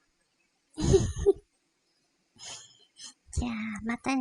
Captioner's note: laugh